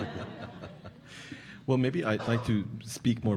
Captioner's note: audience laughing